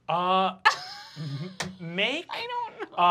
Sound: Fig laughs

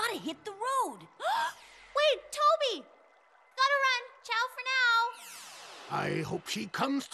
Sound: gasping

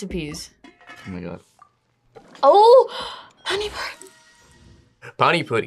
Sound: gasps

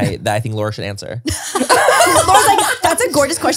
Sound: everyone laughs

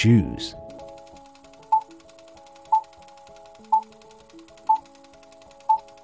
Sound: movie reel spinning and beeps

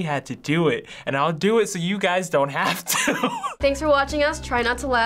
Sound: laughs

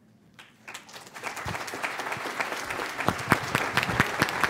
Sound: applause

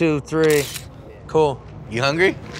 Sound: camera flashing

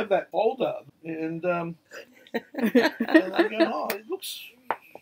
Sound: laughing

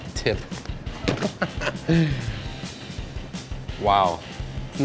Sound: laughs

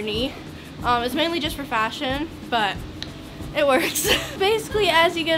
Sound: chuckles

